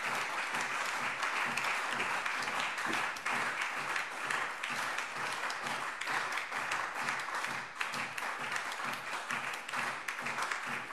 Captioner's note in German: Anhaltender Beifall SPD, Freie Demokraten und DIE LINKE